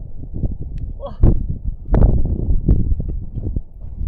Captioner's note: wind blowing